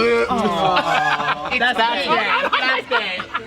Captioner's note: laughter